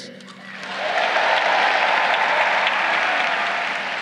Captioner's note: crowd cheering